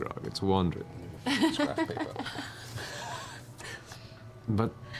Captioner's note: laughs